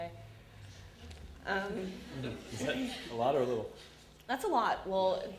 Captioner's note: audience laughter